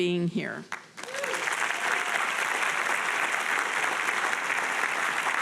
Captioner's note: audience applauding